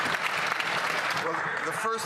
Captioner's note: cheering and Applause